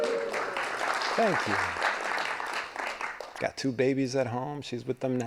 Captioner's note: applause